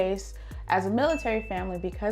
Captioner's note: chime rings